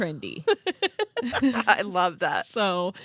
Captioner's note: girls laughing